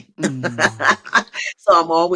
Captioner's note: laughs